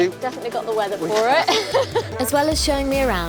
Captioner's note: laughing